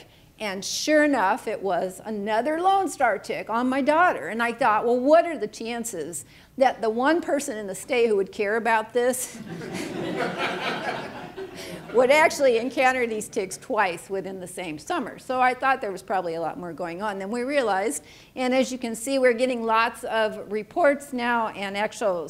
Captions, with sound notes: And, sure enough, it was another Lone Star tick, on my daughter! And I thought what are the chances that the one person in the state who would care about this [audience laughing] would actually encounter these ticks twice within the same summer? So I thought there was probably a lot more going on than we realized. And as you can see we're getting lots of reports now and actual